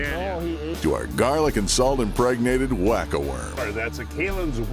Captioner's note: voiceover